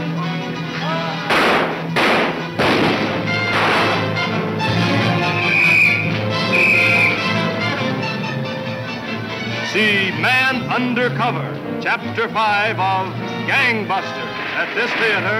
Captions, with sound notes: (guns firing) (whistle tweeting) - See "Man Undercover" chapter five of "Gangbusters" at this theater next week.